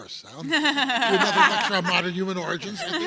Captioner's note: panel members laughing